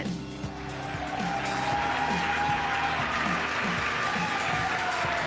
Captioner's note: cheering